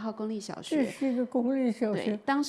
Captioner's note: Mandarin